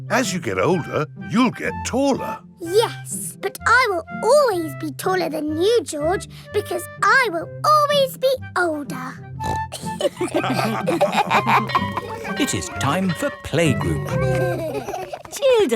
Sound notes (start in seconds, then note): 9.4 snorts; 9.7 all laughing; 11.0 school bell ringing; 13.9 giggling